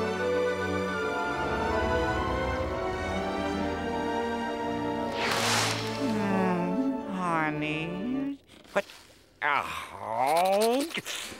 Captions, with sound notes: [sighs] Honey. What? Ugh!